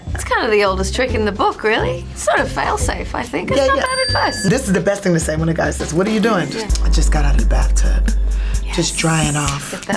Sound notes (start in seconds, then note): 3.6 bell ring sound